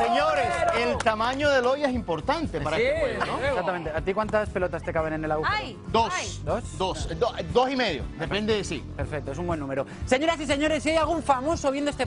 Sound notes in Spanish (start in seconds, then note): 1.7 aplausos